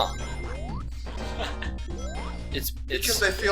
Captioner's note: laughs